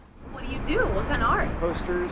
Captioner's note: voiceover